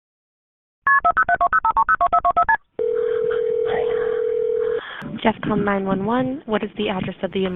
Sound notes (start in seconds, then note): 2.8 phone dialing; 5.5 phone ringing